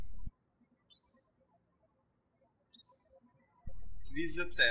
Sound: birds chirping

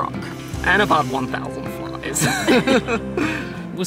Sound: laughs

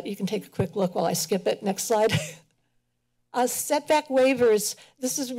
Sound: laughs

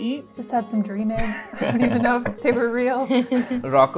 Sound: laughter

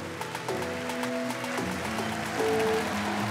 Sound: cheering

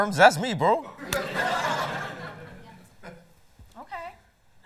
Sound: laughter

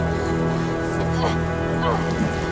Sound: grunting

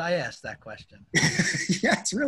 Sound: laughter

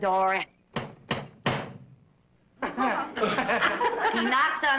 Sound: knocking on door

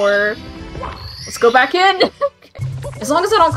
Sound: laughing

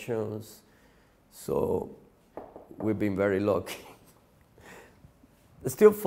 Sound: laughs

